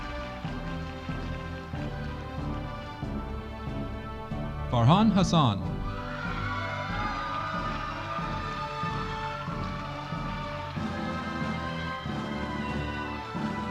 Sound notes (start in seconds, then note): 5.8 audience applauding